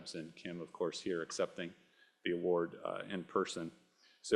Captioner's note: none